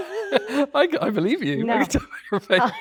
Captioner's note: both laughing